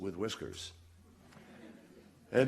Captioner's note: laughter